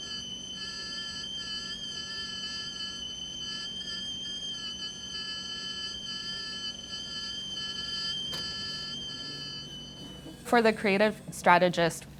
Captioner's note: kettle whistling